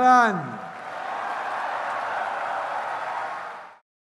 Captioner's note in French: Acclamations délirantes et applaudissements